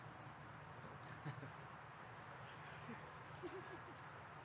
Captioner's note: laughs